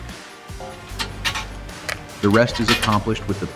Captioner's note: dramatic music; components clanking